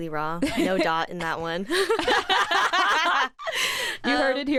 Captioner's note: both laugh